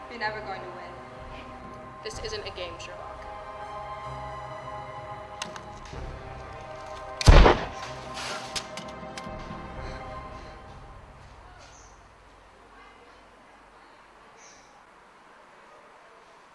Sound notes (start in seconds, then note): 4.6 gun shot; 4.6 sounds of a struggle; 9.5 deep breathing